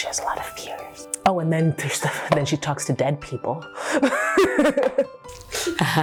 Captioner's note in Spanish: risas